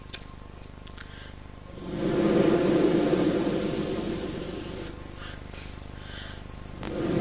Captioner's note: blows into the microphone; blows into the microphone